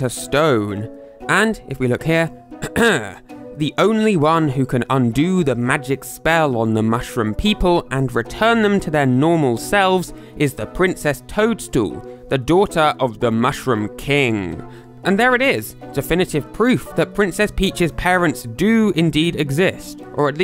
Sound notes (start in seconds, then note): 2.6 ahem